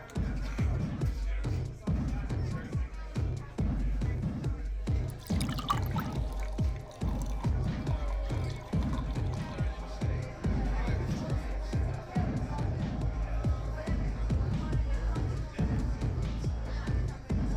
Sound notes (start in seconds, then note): 0.1 upbeat drum music; 7.4 drink pours; 10.0 indistinct chatter at nightclub